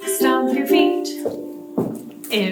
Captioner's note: feet stomp